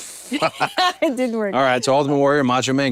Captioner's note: laugh